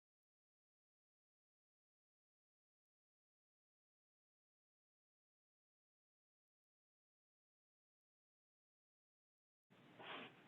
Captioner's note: silence